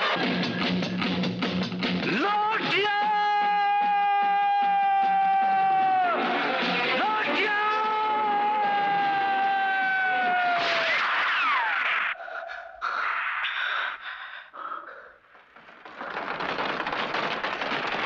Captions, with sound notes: Lotia! Lotia! (Gunshots)